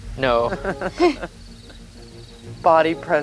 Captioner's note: laughs